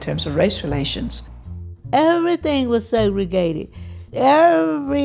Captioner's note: soundbite of archived recording